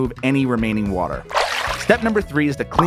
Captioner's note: water sloshing